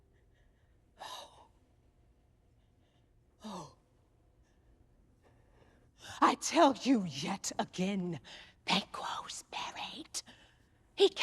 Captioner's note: whispering